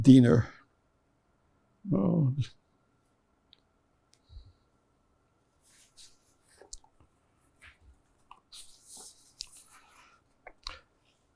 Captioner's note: pauses 10 seconds